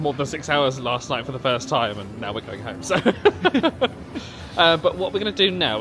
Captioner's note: laughing